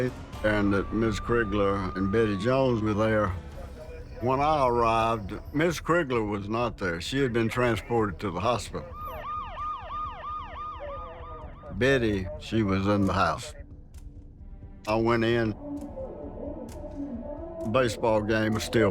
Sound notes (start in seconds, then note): 9.0 ambulance siren